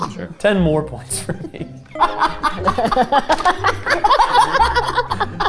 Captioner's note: group laughing